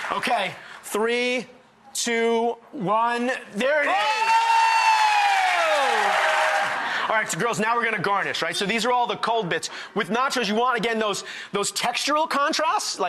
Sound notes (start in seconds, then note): 3.8 excited cheering